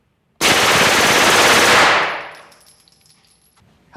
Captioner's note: gunshots